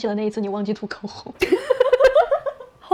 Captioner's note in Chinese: 笑出鹅叫